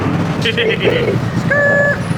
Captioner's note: giggling